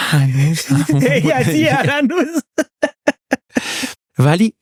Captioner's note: laughs